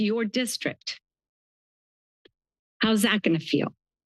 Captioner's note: pause